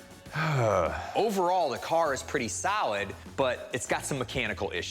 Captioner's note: sighs